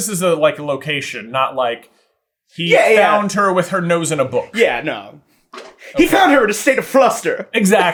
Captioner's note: laughing